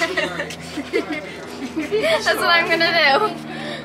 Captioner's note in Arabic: يضحك